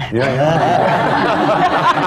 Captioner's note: laughter